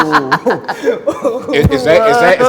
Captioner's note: laughs